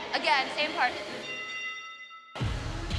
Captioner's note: bell clangs